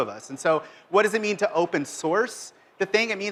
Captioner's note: none